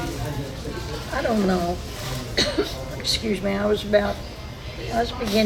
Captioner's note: coughs